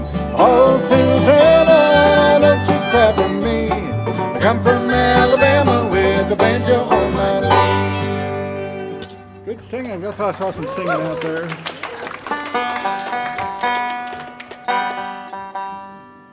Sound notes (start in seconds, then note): 9.9 audience applauding; 12.3 banjo tuning